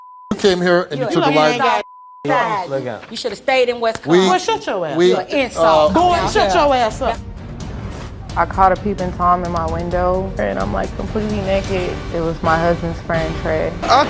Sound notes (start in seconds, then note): 1.0 overlapping chatter